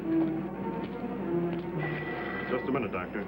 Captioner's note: phone ringing